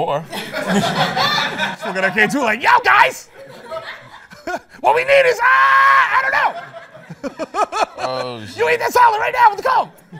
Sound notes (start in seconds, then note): 0.3 laughter; 5.1 screaming; 6.3 laughter; 10.0 laughter